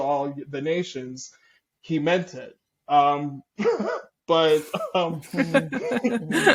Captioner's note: chuckle